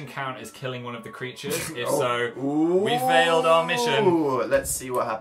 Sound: snorts

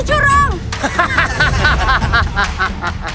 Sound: evil laugh

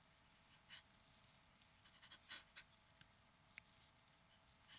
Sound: Brigit panting

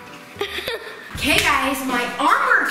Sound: laughter

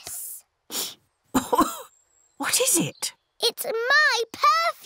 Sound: sniffs and coughs

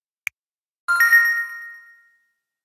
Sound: ding!

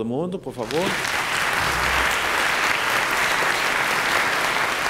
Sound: applause

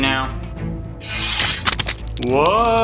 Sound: blade slashing

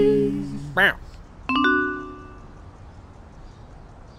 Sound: text message sound

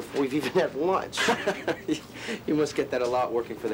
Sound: Thomas laughs

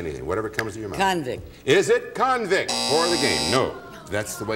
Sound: buzzer

